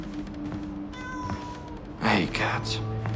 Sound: cat meows

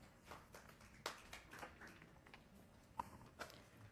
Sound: attendees clapping

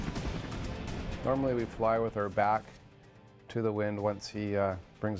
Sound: voiceover; dramatic music

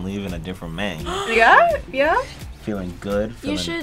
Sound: React gasps

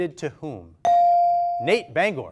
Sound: ding

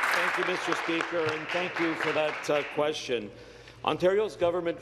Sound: applause

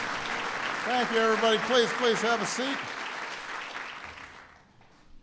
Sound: applause

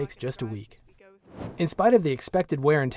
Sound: whoosh

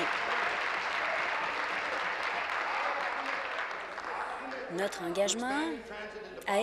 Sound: applause

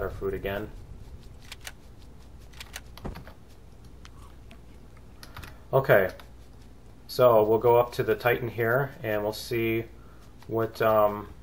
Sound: burning drone; eating munching

